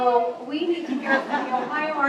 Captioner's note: laughter